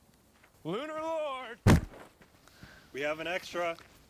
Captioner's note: thud